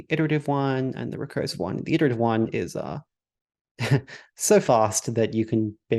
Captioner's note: chuckles